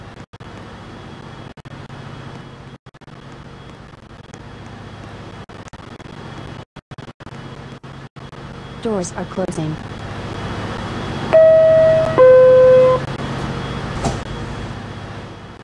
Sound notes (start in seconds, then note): 11.3 door closing chime plays